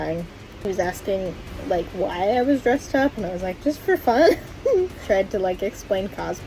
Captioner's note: laughs